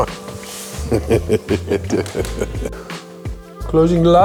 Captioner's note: Wim laughs